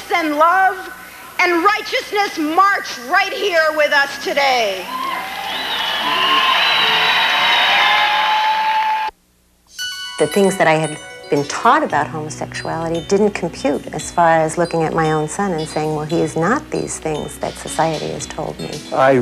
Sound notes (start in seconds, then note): 4.8 audience cheers; 9.7 slow music